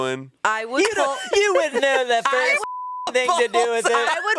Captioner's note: beep